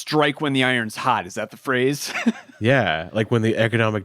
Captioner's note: chuckles